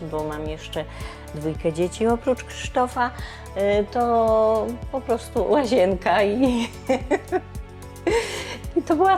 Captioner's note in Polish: śmiech